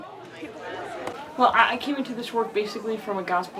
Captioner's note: participants chattering